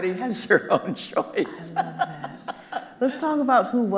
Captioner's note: chuckling; Kathrine laughing